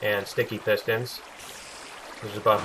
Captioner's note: water flowing